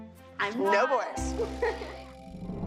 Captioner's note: giggles